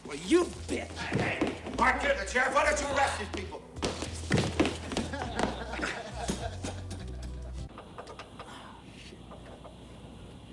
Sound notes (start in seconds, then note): 4.9 all laughing